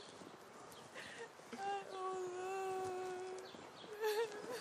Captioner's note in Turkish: Ağlıyor